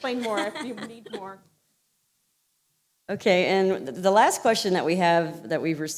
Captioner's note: laughter